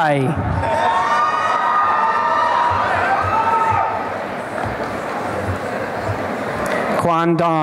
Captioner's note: applause and cheering